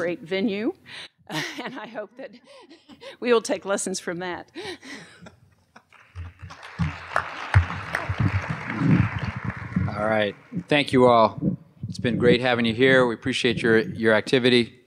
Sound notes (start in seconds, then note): 5.8 applause